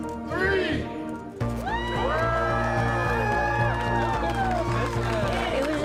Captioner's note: cheers and Applause